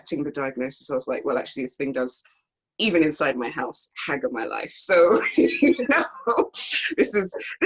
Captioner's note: laughs